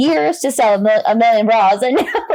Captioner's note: laughs